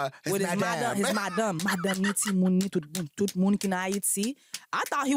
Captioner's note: mimics haitian accent; speaks haitian